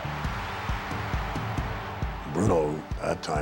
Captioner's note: audience cheering